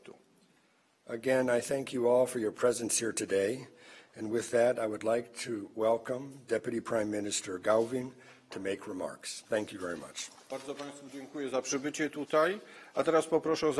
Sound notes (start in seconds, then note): 11.3 speaking polish